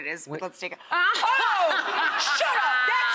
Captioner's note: laughs